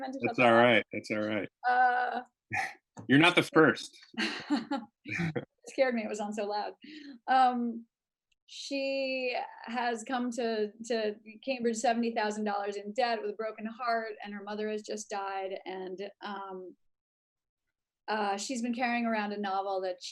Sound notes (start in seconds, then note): 5.1 laughs